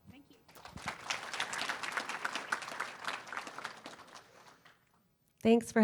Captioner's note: applause